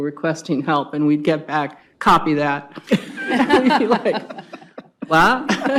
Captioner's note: laughs